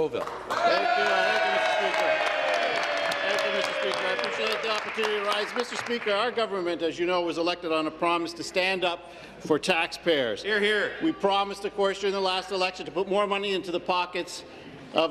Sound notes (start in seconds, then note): 0.0 applause; 4.5 applause; 5.2 cheers